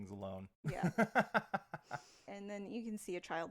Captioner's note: laughs